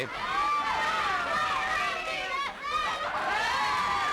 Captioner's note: crowd yelling